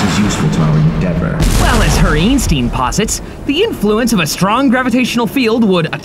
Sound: echoing; rocket blast

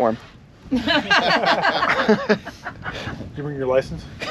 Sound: laughing

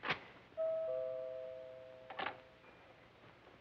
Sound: doorbell

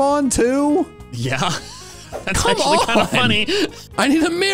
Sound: laugh

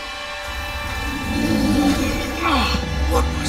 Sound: growling

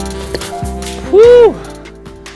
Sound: breathing hard

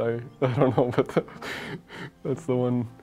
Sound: laughing

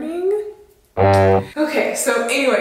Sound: boat horn

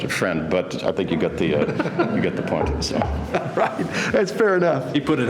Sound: laughter

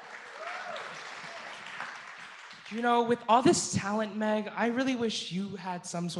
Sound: applause

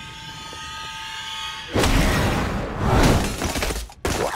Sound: banging

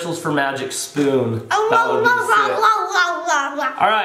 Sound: grunting

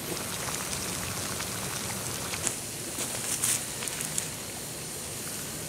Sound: bubbling water

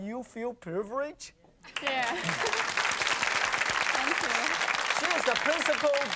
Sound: audience applauds

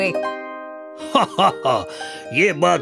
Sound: laughs

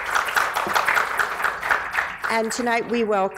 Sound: applause

